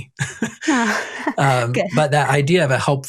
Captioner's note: both laugh